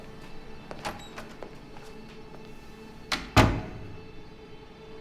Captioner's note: door opens, closes